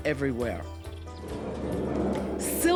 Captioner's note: fire roars